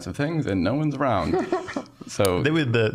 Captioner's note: scattered laughing